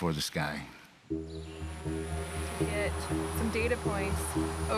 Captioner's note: drone whirring